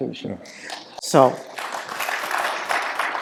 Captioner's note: applause